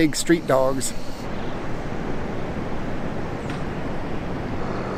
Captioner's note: air whooshing